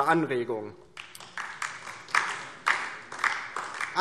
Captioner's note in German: Beifall DIE LINKE